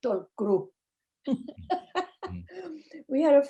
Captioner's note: laughing